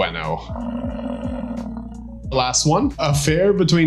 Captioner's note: buffalo grumbling